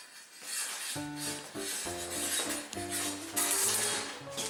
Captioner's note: metal clanks